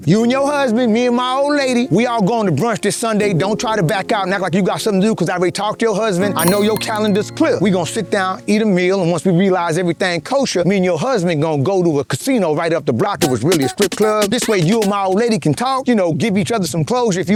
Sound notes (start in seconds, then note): 7.3 chime rings